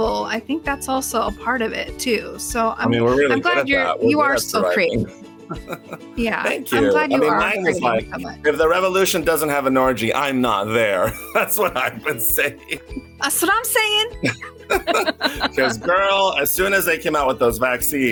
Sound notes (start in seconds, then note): 11.0 laughs; 14.2 both laughing